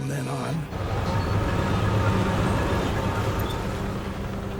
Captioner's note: tank revving